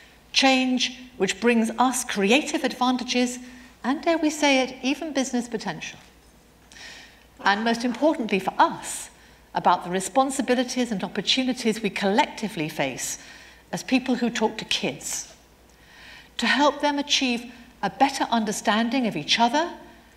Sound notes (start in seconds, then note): none